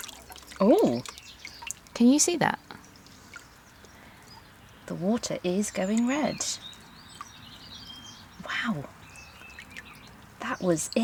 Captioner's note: water rippling